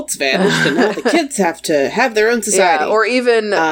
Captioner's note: laughs